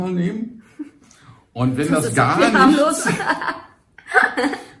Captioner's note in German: beide lachen